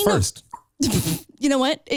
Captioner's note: laughing